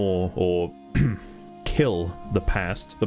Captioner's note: ahem